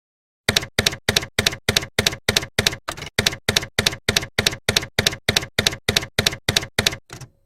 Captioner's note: typewriter keys clacking